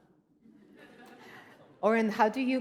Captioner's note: laughter